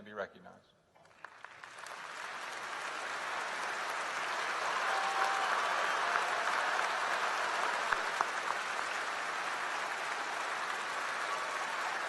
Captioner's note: applause